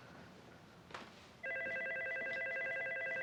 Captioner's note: telephone ringing